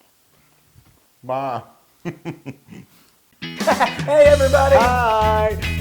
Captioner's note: laugh